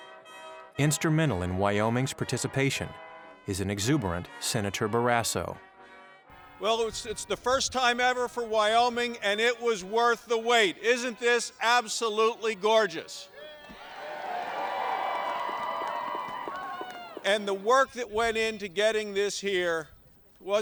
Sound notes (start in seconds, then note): 13.3 crowd cheering